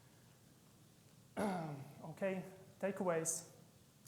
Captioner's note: clears throat